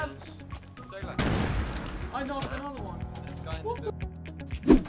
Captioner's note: gun blasting